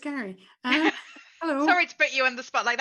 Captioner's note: laughs